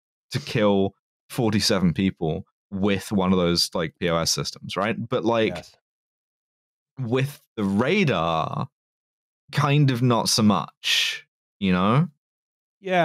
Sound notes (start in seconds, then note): none